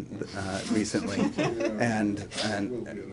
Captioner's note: laughter